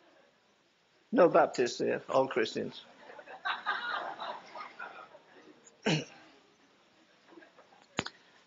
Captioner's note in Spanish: risas